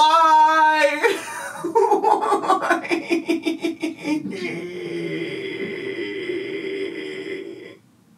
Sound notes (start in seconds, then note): 3.8 groans